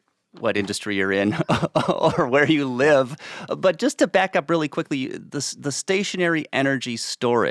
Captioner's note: chuckles